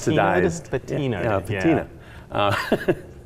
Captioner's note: laughing